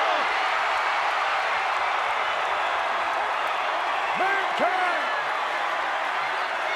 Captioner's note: applause